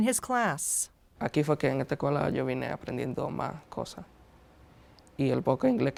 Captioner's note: speaking in foreign language